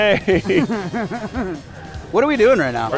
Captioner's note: both laugh